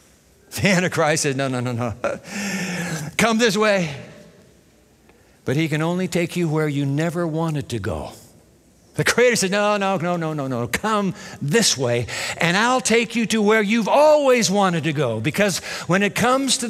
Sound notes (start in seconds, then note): 1.9 chuckles